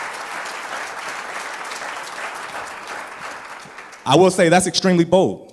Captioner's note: applause